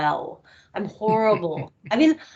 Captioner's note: laughing